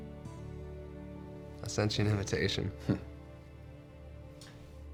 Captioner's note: chuckles